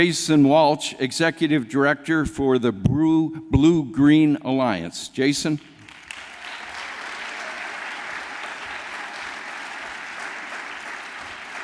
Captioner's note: applause